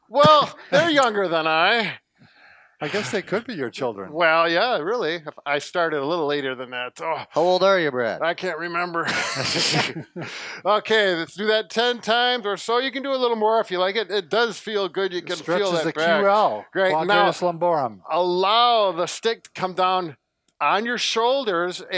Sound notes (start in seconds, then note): 9.0 laughter